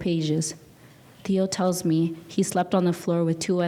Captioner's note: speaking in a foreign language